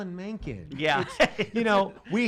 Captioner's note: laughing